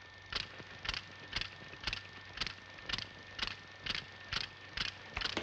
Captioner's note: film reel clacks